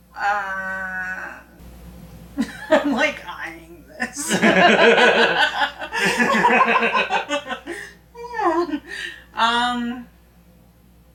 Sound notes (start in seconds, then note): 4.0 laughing; 4.1 both laughing; 8.1 making sound effect